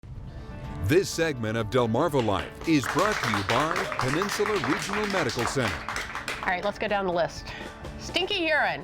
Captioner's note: applause